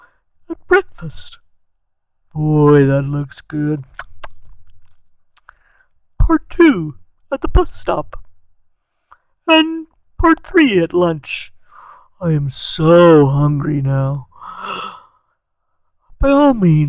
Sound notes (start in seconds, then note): 3.9 smacks lips